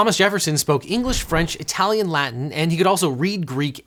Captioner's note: air whooshing